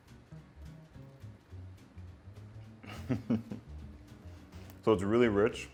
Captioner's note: laughs